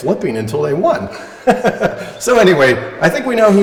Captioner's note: laughter